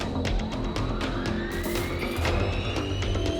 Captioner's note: whirring